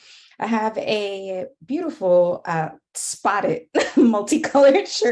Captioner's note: laughing